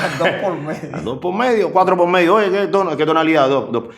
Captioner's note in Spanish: risas